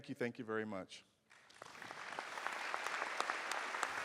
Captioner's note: applause